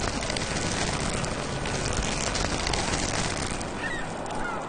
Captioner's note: crackling